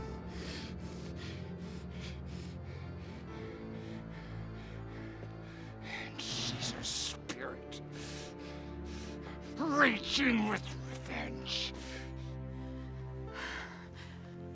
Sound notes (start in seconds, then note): 1.8 Graham pants